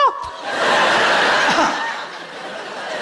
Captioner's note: laughing